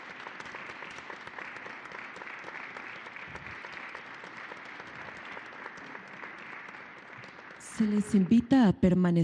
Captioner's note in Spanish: aplausos